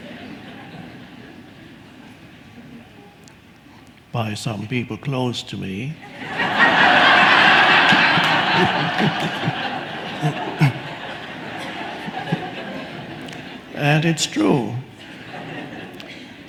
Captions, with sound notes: by some people close to me. (audience laughs) (Eckhart laughs) And it's true.